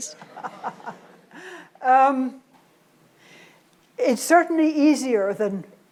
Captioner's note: laughs